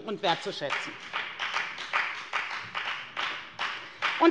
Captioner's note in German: Beifall bei der FDP